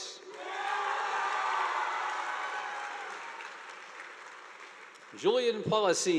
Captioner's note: audience applauding; students cheering